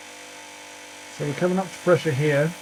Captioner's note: machine humming